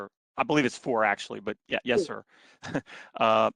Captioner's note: laughter